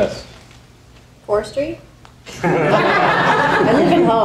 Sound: audience laughing

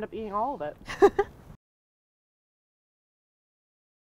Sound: chuckles

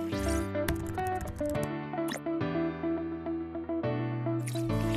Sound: bright music; keyboard clicking

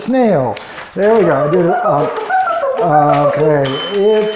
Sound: box beeping; bell rings

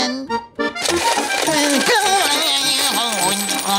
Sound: groaning

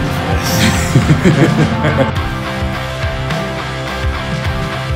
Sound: laughs

